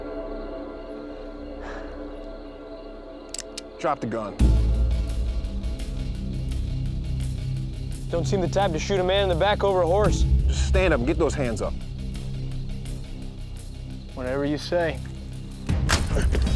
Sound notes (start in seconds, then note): 3.3 cocks gun